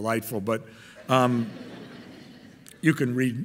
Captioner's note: audience laughing